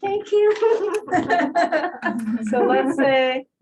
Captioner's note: laughter